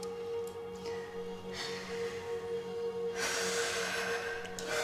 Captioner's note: sighing